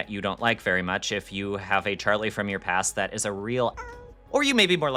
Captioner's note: meow